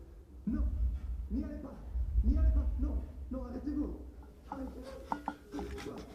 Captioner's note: speaks in foreign language